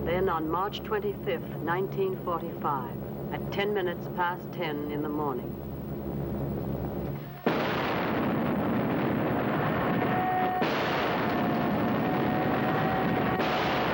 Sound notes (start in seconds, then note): 7.4 explosions